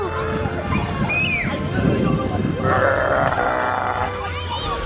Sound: groaning

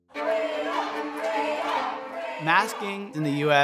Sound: crowd chanting

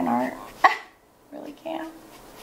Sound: laughs

